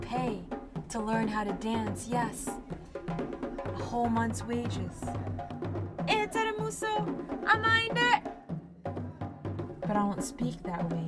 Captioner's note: foreign language